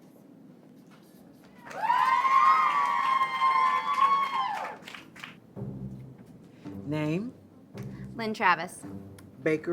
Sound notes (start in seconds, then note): 1.6 group cheering; 5.4 playful music